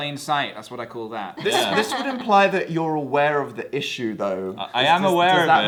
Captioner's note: laughs